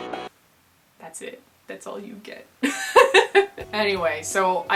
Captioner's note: laughter